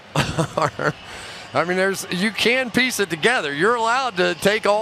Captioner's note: chuckles